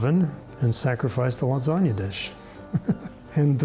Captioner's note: laughing